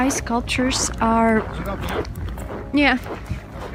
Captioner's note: A man speaking Russian